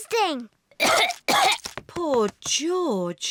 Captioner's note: coughs